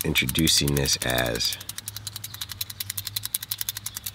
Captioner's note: pen clicking